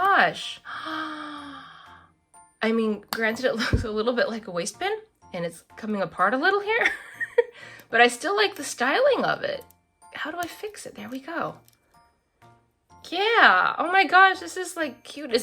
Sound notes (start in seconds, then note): 7.1 laughs